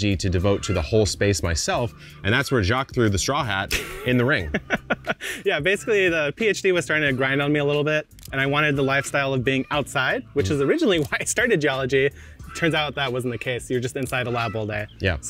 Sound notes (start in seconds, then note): 3.6 laughing